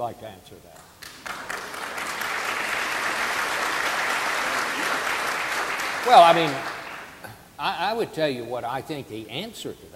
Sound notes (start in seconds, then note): 1.0 audience applauding